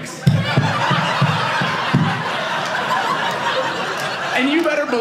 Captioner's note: audience laughing